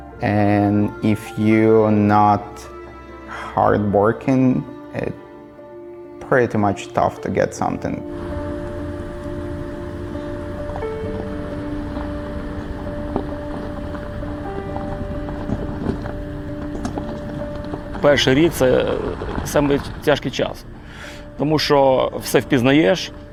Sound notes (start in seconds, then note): 8.4 car engine noise